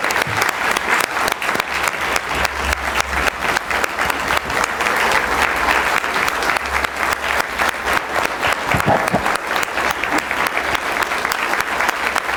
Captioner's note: applause